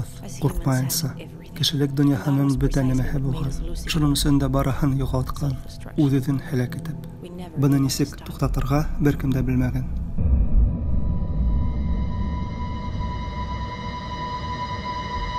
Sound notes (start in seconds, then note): none